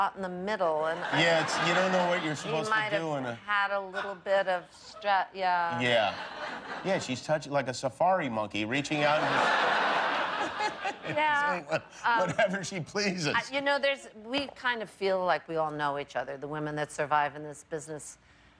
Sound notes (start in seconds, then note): 2.9 laughter; 9.0 laughter